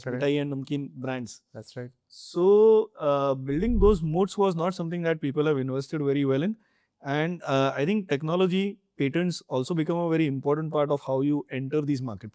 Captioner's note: foreign language